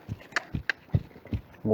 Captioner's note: cluck